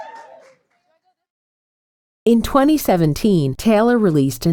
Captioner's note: cheering